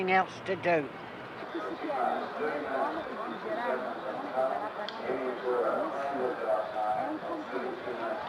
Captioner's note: crowd talking in background